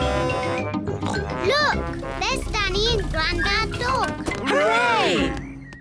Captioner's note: horn blares; snorts